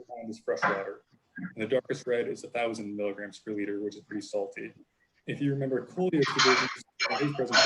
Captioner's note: background interference